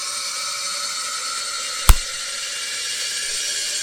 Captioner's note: EPIPEN injection THUMP